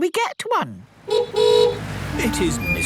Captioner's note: horn honking